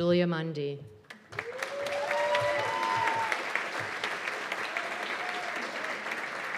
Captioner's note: cheers and applause